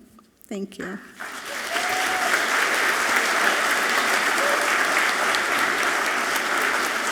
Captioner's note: audience clapping and cheering loudly